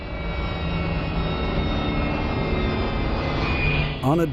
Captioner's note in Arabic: هدير الطائرة